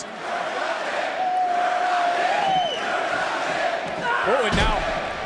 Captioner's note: crowd chants